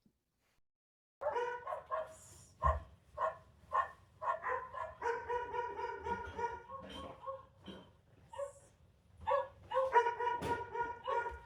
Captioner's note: dogs barking over a speaker and in the background